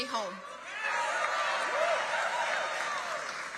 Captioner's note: cheering and applause